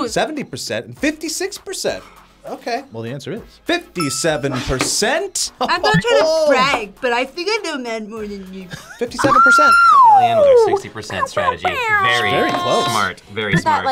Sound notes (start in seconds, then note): 9.2 screams